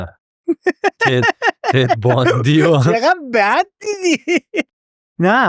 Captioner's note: laughs